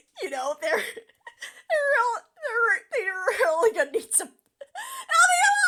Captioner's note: stifling laughter; delirious stammering